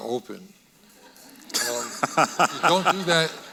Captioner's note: audience laughing